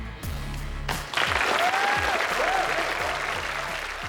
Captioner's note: applause